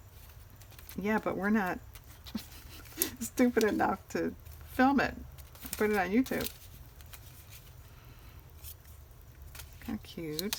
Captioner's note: laughs